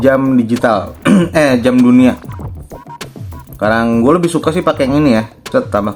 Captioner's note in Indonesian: berdehem